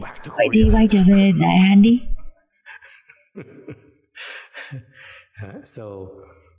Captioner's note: laughter